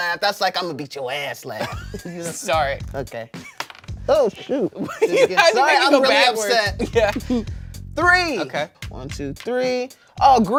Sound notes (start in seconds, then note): 4.3 laughs